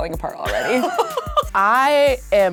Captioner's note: laughing